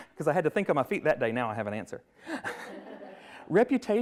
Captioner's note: everyone laughs